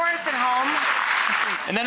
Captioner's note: audience applauds